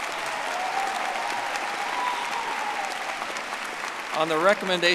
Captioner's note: audience applauding